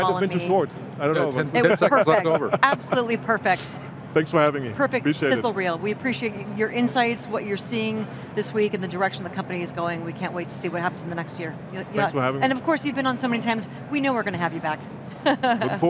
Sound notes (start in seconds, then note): 1.5 laughs; 15.2 laughs